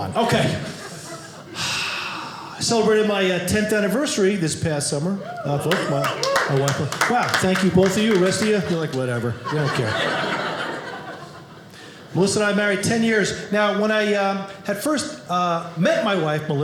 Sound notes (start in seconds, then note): 5.1 audience cheering; 10.6 audience laughing